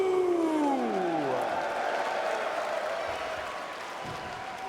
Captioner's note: spectators cheering